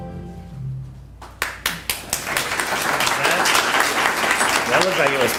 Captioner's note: applause